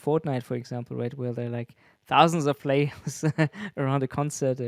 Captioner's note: laughs